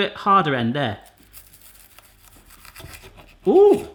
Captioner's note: cutting